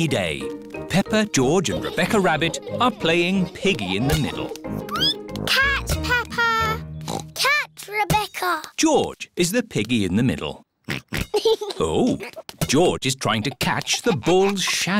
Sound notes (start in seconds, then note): 4.4 squeaks; 7.0 oinks